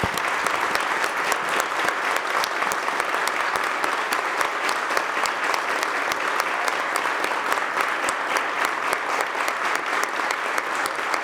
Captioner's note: applause